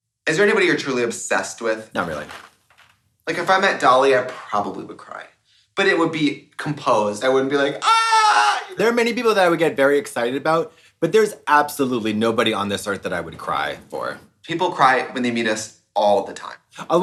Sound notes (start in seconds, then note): 7.7 screams